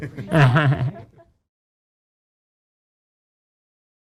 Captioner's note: laughing